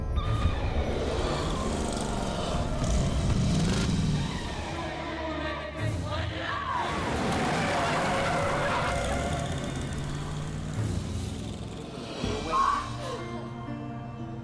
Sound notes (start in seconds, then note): 0.1 tires screeching; 3.2 engine rumbling; 6.6 tires screech